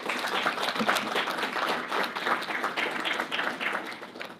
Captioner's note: audience applauding